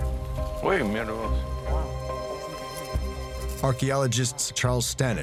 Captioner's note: speaking Spanish